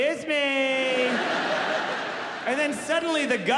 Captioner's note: audience laughing